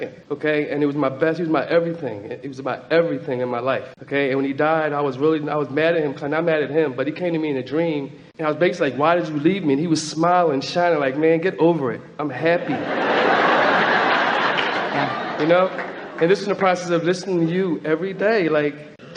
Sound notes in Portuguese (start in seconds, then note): 12.4 Platéia ri